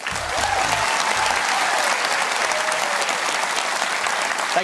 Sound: cheering and applause

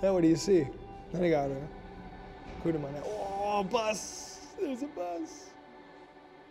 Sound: speaks foreign language

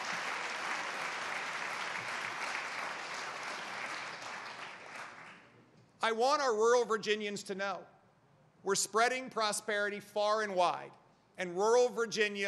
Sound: applause

